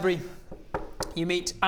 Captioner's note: knock knock knock